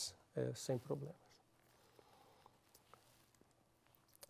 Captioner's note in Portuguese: pausa sonora